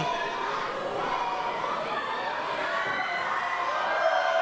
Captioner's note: audience cheering